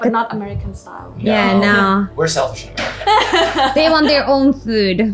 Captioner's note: laughing